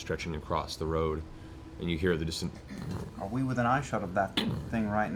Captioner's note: muffled stomping noise